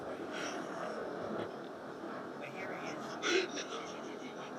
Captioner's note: Superman crying